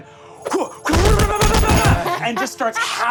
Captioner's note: grunts